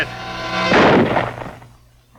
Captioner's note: dramatic music; gun fires